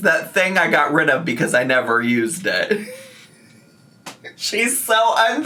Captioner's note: laughs